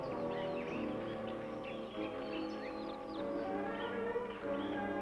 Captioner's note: birds chirping